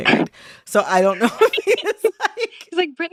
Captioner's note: laughter